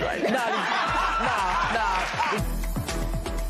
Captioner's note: laughter